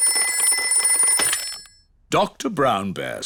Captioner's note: ringing